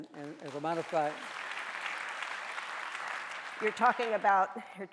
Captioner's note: audience applauding